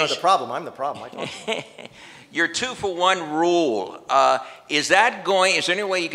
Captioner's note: laughs